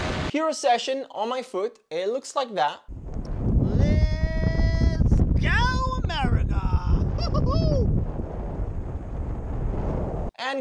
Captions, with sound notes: HERO Session on my foot. It looks like that. (air whooshing) Let's go America, woo!